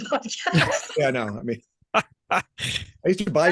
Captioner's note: laughing